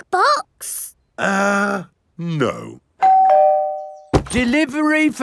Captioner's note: doorbell rings